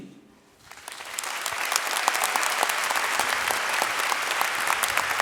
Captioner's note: audience cheering and clapping